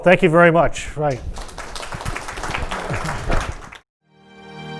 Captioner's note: applause